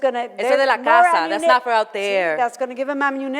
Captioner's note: in foreign language